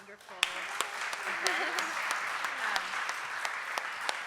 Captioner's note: applause